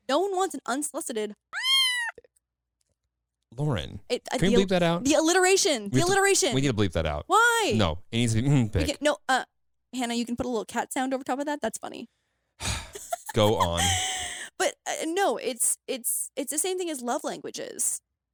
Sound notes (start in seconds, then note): 1.5 cat meows; 12.6 sighs